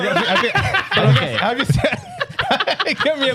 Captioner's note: laughing